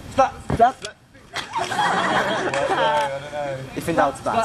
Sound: laughing

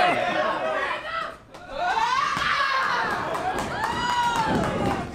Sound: Miranda yells

